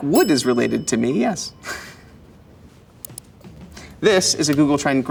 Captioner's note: bell dings